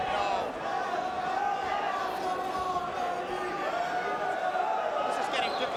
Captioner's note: crowd vocalizing continues